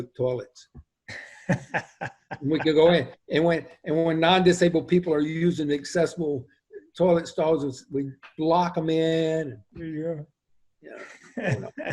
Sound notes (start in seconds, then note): 1.1 laughs; 10.9 laughs